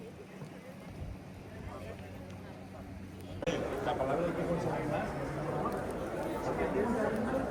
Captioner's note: people chattering